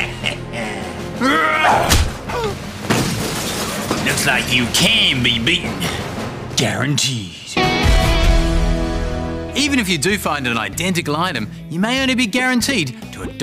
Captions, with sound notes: (Roars) (Thud) (Gasps) (Crash) Looks like you CAN be beaten... guaranteed. Even if you do find an identical item, you may only be guaranteed to a dodgy excuse.